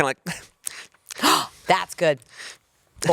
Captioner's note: gasps